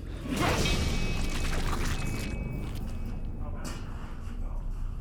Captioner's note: liquid splatters